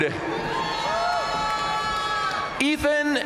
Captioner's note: audience cheering and applauding